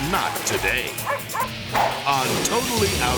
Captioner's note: dog barks